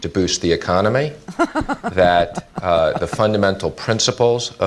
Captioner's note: laughs